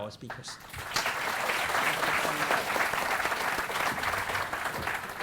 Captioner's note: audience applauding